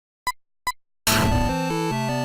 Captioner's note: beeping; instrumental music